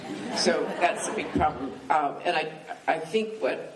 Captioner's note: laughing